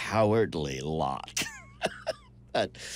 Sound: laughs

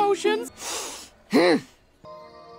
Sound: deep inhale; frustrated grunt

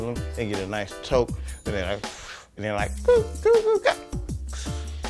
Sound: inhale

